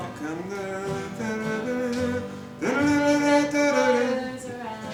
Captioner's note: mimics melody